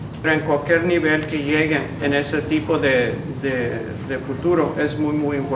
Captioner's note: in Spanish